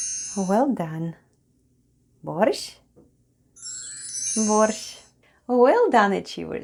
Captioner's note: chime sound